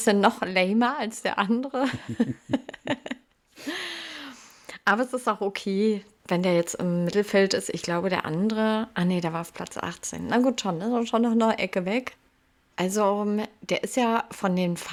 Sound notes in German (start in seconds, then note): 1.8 gelächter; 3.6 japst